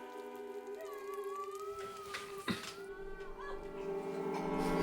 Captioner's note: fire crackling; Asenath crying; eerie music